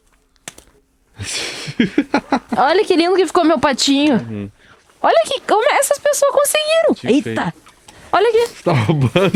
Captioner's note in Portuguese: risadas